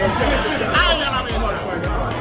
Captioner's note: speaking Spanish